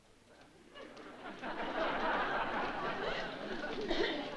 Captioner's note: laughter